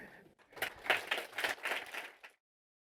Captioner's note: applause